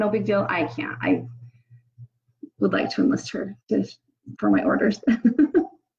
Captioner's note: laughs